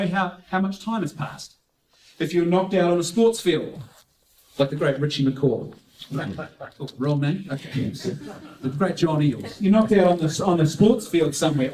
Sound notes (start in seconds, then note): 6.3 laughter